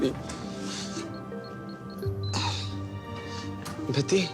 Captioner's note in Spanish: Sonido al marcar